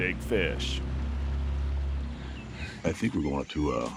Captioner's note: boat engine running